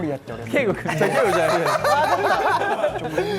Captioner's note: hahahahahahahahahahahahahahahaha